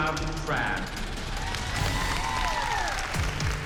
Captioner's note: cheering